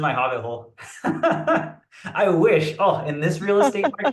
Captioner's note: laughs